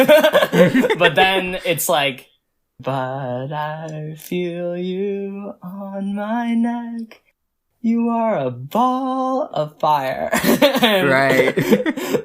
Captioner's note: both laugh; laughs